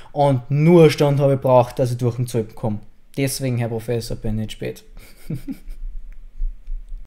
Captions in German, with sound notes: Und noch eine Stunde habe Ich gebraucht dass Ich durch den Zoll komme. Deswegen Herr Professor bin Ich zu spät. *lacht*